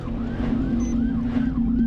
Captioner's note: siren